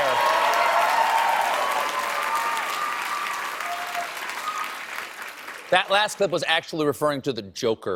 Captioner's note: applause